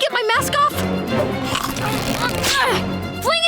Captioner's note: grunting